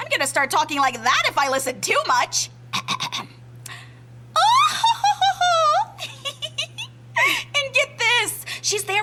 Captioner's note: Impression of Evangeline cackle